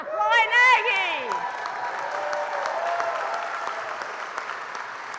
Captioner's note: applause